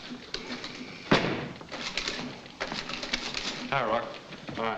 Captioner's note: door bangs shut